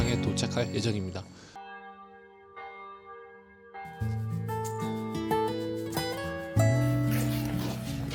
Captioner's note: the sound of bells ringing signals that it's almost noon